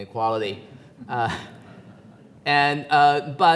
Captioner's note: audience laughs